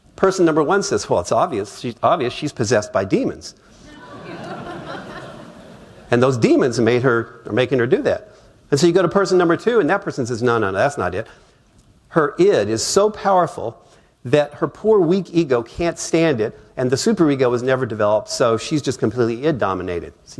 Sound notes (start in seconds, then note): 3.8 laughter